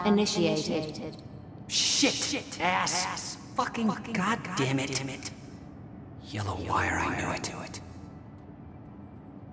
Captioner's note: as an echo from the past